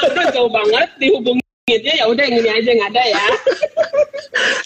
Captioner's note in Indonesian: tertawa